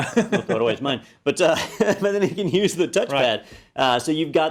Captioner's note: laugh